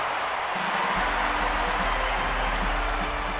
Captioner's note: crowd cheers